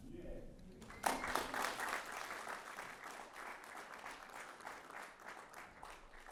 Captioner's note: applause